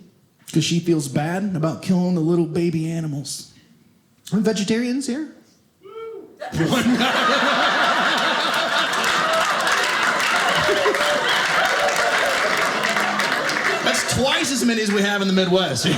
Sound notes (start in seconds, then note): 6.4 audience laughing